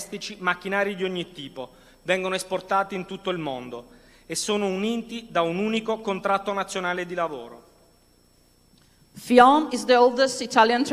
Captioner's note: speaking non-english language